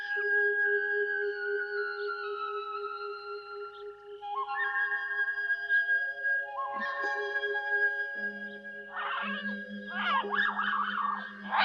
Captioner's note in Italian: urlo